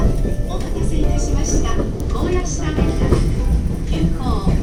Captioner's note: relaxing train ride noises